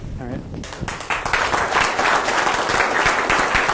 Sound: applause

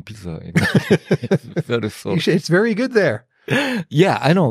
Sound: laughs

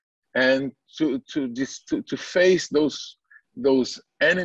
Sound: foreign language

